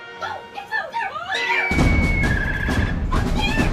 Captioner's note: screaming